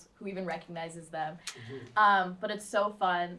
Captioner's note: chuckles